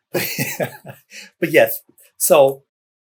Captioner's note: laughs